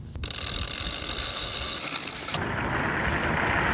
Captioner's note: ratchet clicks